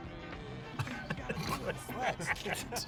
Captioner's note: laughs